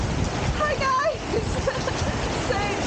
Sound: laughing

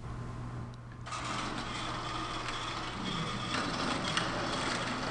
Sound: scraping sounds

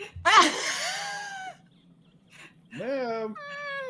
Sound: laughs

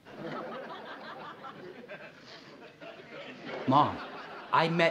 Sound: audience laughing on TV

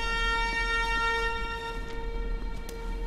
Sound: footsteps

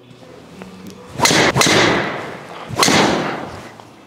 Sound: ball thuds

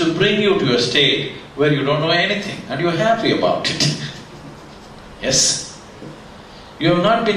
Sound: laughs

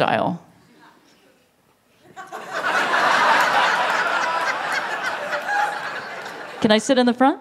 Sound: laughter

